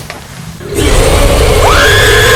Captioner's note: Cave Cryptid Agressive noise; screaming